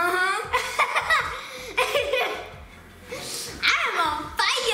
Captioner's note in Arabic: يضحك